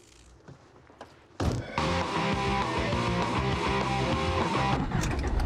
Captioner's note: radio blaring